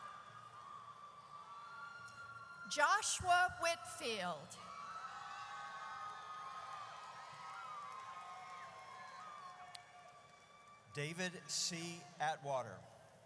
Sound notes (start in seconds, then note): 4.6 audience cheers